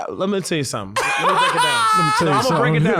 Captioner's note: laughing